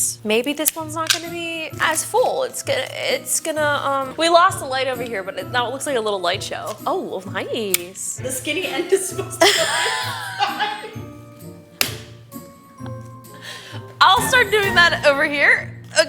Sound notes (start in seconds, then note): 10.6 both laugh